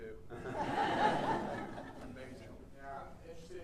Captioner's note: audience laughing